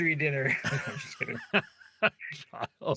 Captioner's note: laughing